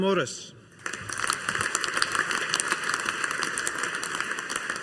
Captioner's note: audience applauding